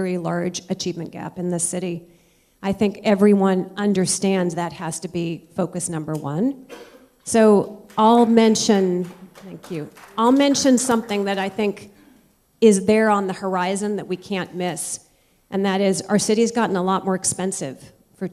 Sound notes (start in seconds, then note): 7.6 applause